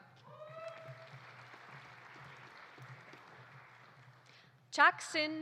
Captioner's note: audience applauding; audience cheering